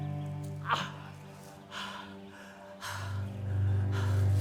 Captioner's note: Arawn groaning